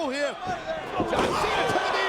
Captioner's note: body thudding; blow thudding